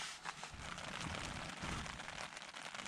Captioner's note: heavy rain